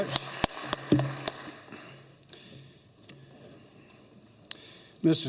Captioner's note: applause